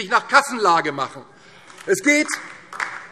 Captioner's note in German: Beifall DIE LINKE